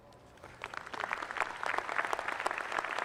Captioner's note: applause